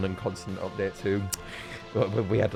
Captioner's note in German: Zungenschnalzen